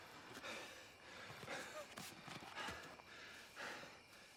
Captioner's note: Thor panting